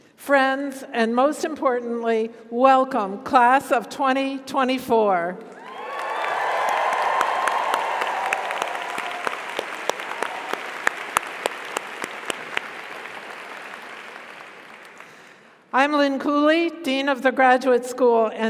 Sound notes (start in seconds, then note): 5.6 audience cheers; 5.6 audience applauds